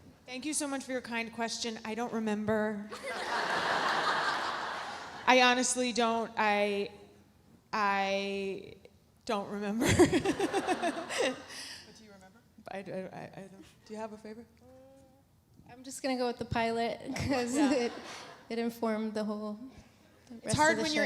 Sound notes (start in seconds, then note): 3.0 audience laughs; 9.9 laughs